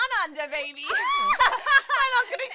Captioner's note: laughter